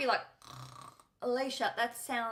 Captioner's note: snores